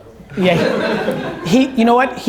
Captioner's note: audience laughs